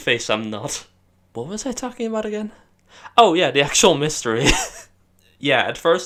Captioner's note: laughs